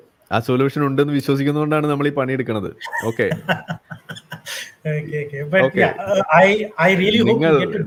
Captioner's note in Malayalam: പൊട്ടിച്ചിരി